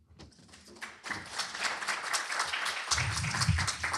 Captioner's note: applause